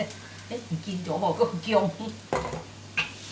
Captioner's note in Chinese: 廣東話